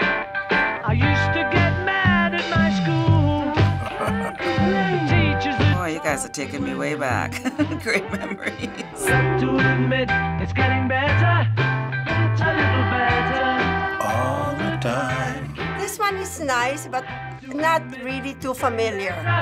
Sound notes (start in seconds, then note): 3.5 chuckles; 7.2 chuckling; 13.7 singing along